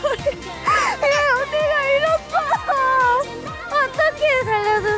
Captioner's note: teary